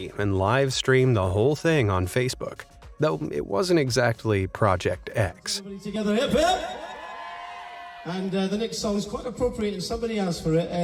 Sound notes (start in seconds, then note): 6.2 crowd